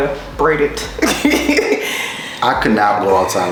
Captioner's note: laughter